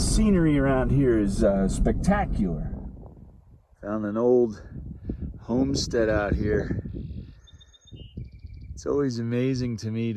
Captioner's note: bird song